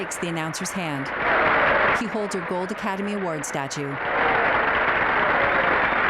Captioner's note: crowd cheering; applause